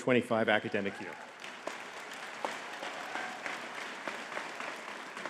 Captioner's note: audience clapping